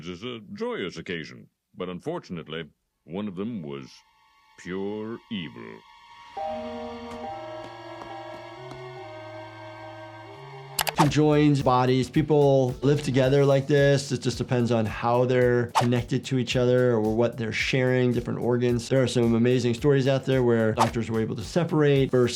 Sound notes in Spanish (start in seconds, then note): 6.8 pasos fuertes; 6.9 música dramática